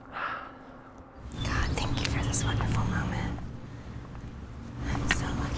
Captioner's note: whispers